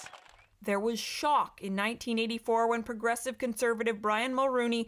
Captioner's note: cheering and Applause